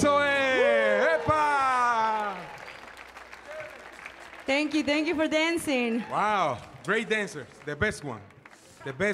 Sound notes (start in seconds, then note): 2.4 audience applauding